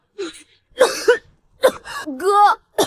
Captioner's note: cough cough